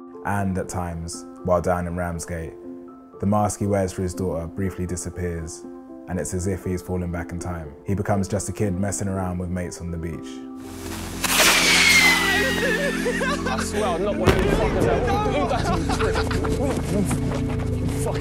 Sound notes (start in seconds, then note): 10.7 firecracker sizzling and then going off; 12.2 laughs; 16.2 running on gravel